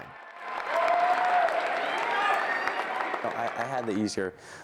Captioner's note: crowd cheering